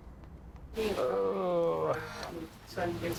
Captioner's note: groaning